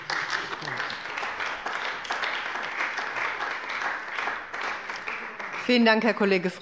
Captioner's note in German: Beifall bei dem BÜNDNIS 90/DIE GRÜNEN und der CDU